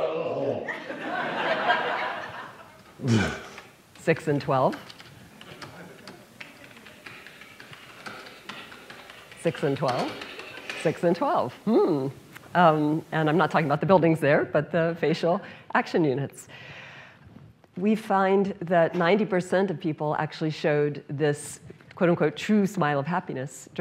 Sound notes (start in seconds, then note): 0.2 vomiting noise; 3.0 typing; 5.3 typing